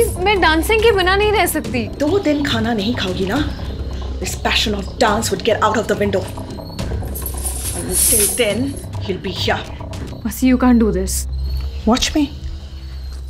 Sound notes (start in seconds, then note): 6.0 sound of anklets